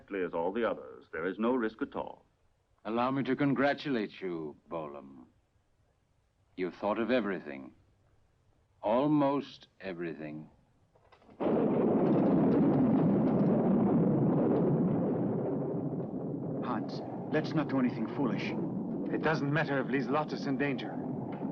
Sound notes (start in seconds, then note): 11.4 thunder crashing